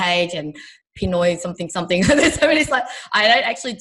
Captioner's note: laughs